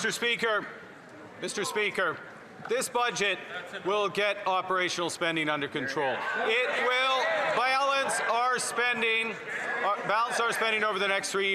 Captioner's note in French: voix de l'interprète